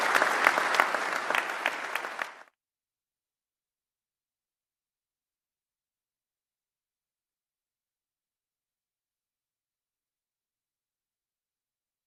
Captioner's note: applause